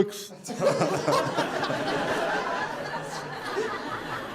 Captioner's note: audience Laughter